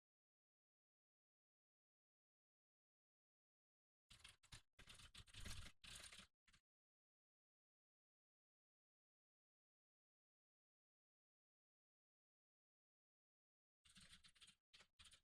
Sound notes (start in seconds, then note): 4.1 typing sounds